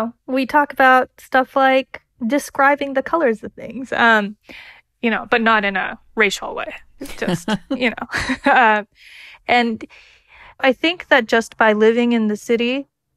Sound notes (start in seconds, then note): 7.0 laughter